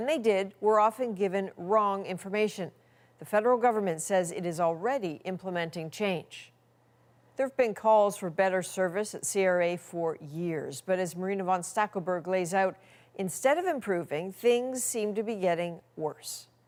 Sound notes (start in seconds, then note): none